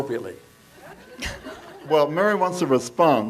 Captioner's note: audience members laugh